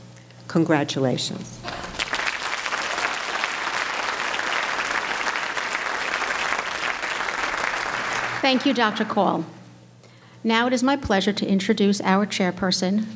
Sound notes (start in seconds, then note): 1.6 applause